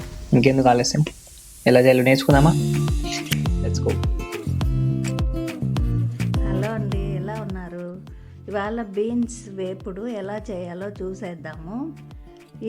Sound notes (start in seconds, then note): 5.8 moms sweet voice begins